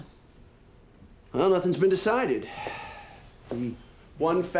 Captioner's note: sighs